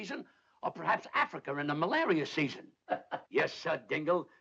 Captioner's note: chuckling